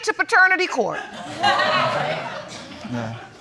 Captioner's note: audience laughing